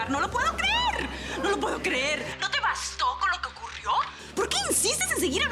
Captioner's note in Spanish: Murmullo de comentarios